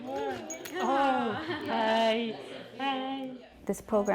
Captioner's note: laughter